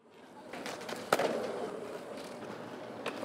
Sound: skateboard rolling

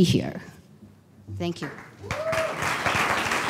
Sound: applause

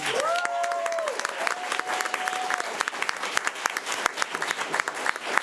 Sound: audience cheering and applauding

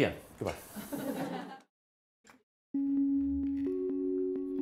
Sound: laughter

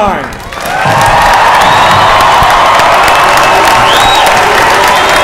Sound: cheers and applause

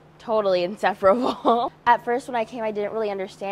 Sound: laughs

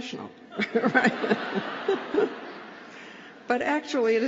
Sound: laughter

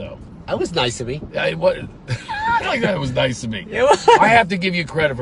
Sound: laughing

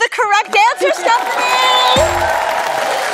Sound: cheers and applause

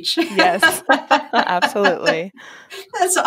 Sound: laughter

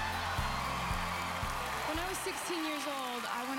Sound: audience cheering

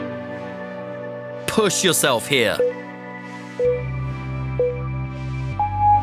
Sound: timer beeping

